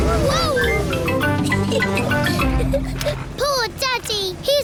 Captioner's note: giggles